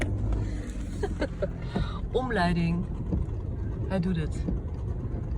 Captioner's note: car starts